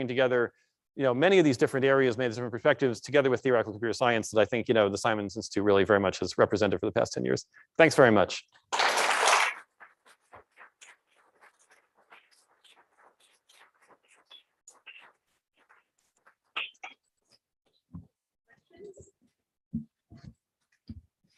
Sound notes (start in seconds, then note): 8.7 applause